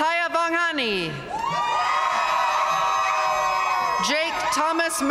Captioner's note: audience cheering and applauding